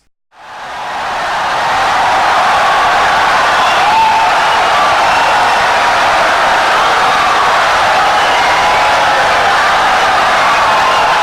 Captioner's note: wild applause and cheering for 17 seconds